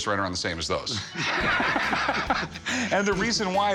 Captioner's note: laughter